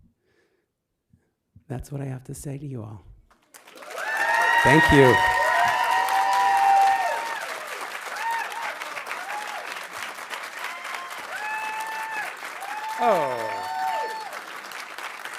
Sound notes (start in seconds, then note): 5.5 audience applauding; 5.5 audience cheering